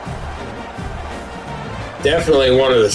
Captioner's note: crowd Noises